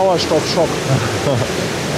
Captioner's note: laughs